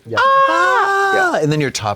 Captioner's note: blonde Women holler